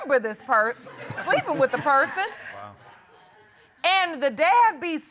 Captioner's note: chuckles